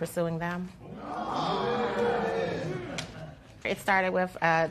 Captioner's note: spectators exclaiming